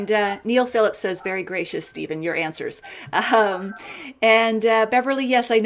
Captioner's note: laughs